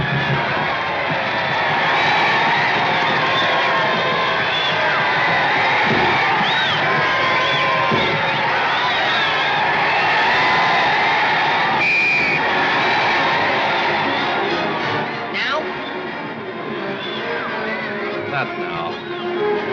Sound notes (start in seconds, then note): 0.2 crowd cheering and whistling; 11.4 crowd cheering; 11.6 whistle blows